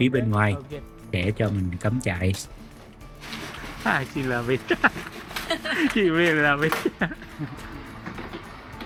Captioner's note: laughs